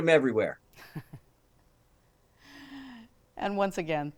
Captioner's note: chuckling